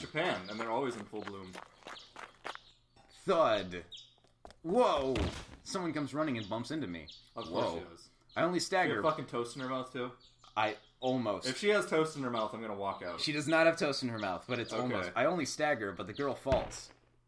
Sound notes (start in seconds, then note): 2.9 thud